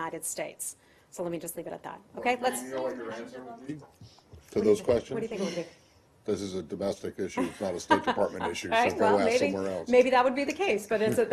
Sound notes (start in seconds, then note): 7.3 laughter